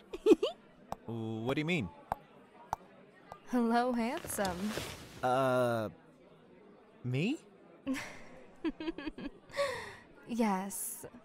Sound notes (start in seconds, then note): 8.7 amused laugh